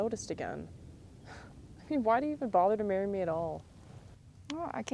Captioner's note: chuckles